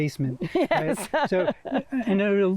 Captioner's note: chuckling